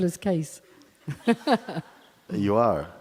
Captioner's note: questioner laughs